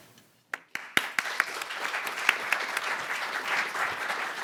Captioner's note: audience applauding